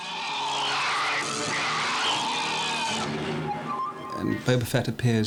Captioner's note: SArieking